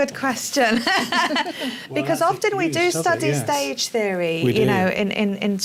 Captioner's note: laughs